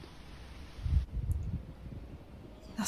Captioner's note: wind blowing